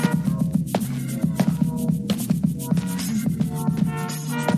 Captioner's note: footsteps